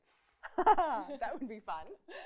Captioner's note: laughs